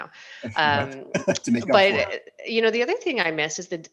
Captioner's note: laughs